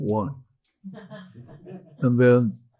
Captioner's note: audience chuckles